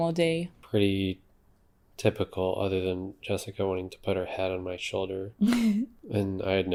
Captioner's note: laughs